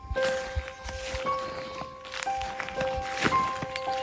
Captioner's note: footsteps; gentle music